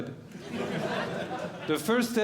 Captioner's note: audience Laughing